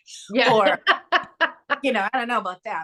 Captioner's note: laughs